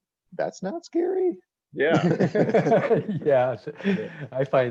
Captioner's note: all laughs